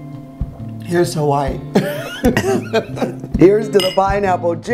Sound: laughs

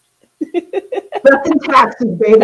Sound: laughs

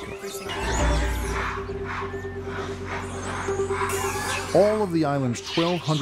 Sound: monkeys screeching

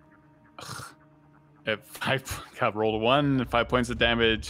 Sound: scoffs

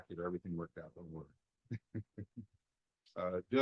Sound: laughter

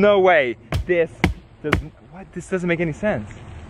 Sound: thudding

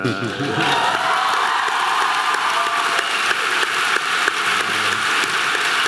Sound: audience clapping and cheering

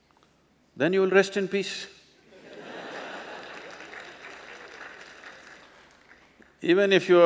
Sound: laughter/Applause

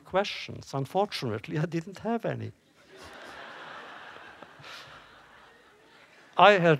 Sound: laughter

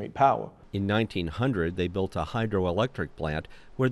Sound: voiceover

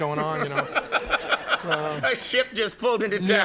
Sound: Conan laughing

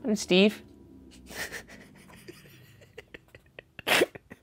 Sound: laughing

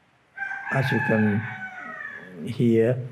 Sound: rooster crows

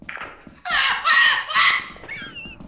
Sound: screams over the walkie; laughs

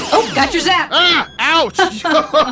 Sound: laughs; laughs

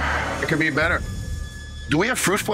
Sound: sighs

